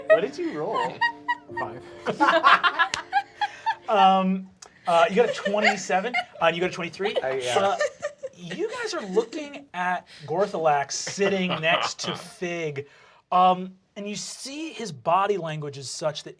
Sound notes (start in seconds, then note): 2.6 laughter